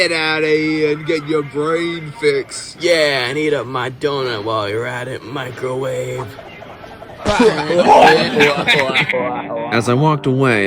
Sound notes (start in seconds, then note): 7.2 laughing